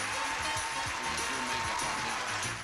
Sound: audience applauding

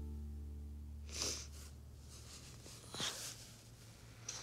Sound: sniffing

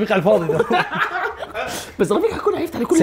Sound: all laughing

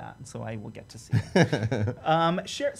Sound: laughs

